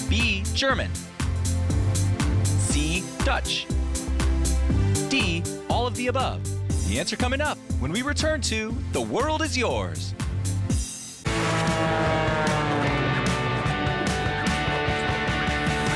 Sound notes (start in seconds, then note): 11.2 engine whirring; 13.2 upbeat music